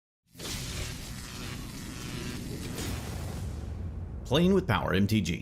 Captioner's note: electricity crackling